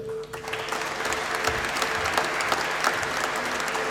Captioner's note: applause